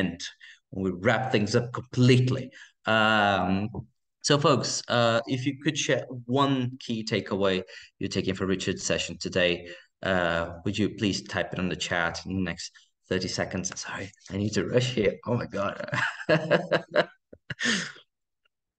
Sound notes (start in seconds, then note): 15.5 laughing